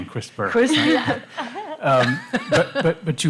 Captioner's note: laughter